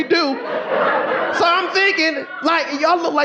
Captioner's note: audience laughing